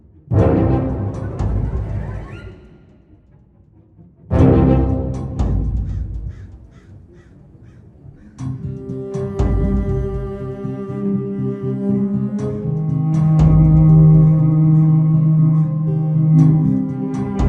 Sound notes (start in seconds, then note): 4.6 intense music; 5.8 crow caws